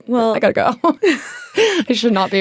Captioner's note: all laughing